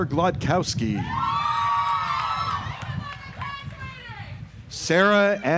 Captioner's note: audience applauds